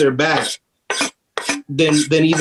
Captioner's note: knife scraping